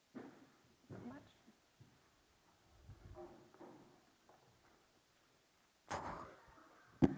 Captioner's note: feet clacking